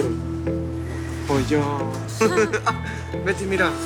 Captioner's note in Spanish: Risas